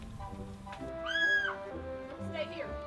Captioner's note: scream